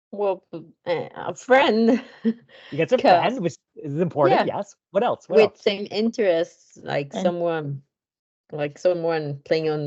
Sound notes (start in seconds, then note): 1.6 laughs